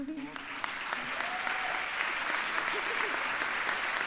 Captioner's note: applause